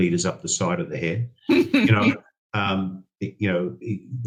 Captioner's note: chuckles